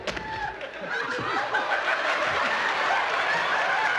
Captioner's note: crowd laughing